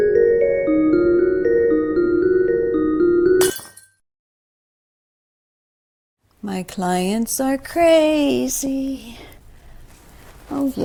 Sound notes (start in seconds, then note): 3.4 ornament shattering